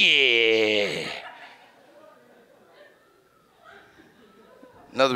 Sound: audience laughs

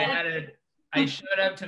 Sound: audio warps

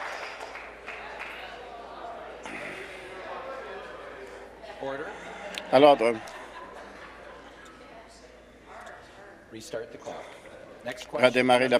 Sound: applause

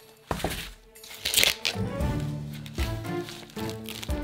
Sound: corn shucking

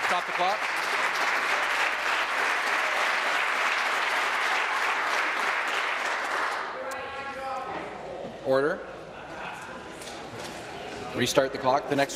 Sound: applause

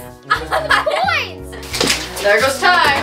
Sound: laughs

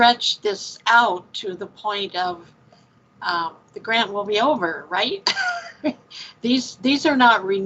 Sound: laughs

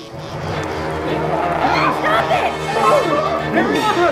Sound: screaming and growling

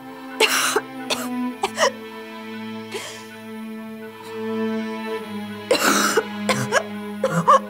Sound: coughing

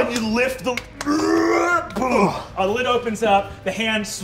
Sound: groaning; grunting

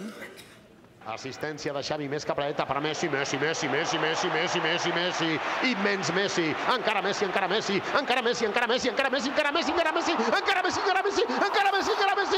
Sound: speaking catalan

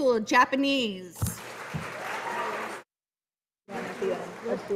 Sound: audience applauding

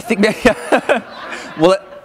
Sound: laughter

